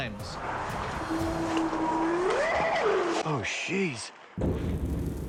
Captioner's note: eerie howl